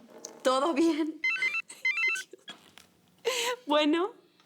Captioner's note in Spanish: Suena el teléfono